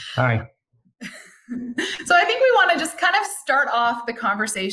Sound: giggles

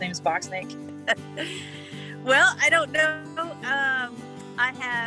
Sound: laughing

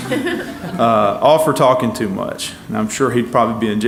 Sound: laugh

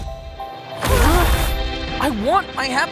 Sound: thud followed by high pitched drilling

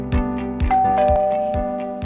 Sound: doorbell Rings

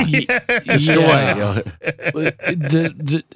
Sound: laughing

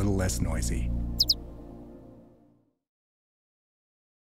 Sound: bluebird warbling

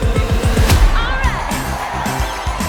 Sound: crowd cheers

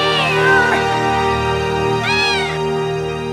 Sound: meowing

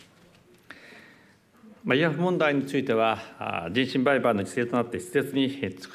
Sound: speaking japanese

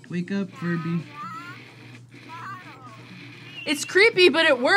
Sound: Furby babbles

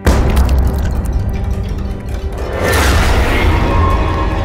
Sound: squashing sounds

